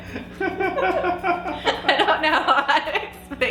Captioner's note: laughing